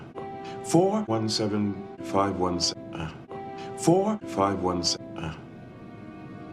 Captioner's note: none